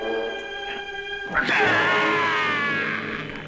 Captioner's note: groaning